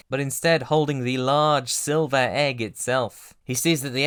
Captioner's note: none